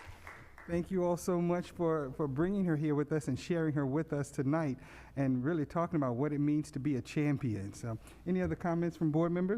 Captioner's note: applause